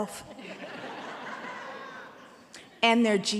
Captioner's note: laughter